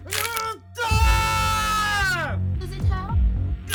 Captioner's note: prisoner screaming